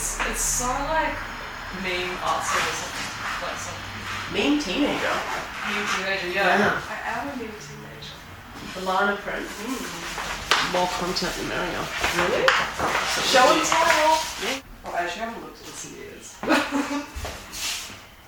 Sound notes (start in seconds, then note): 9.5 paper rustling; 14.0 object rustling; 16.4 laughs